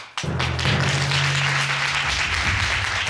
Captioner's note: audience applauds